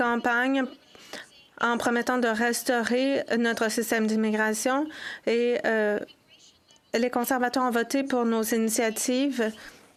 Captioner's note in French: voix de l'interprète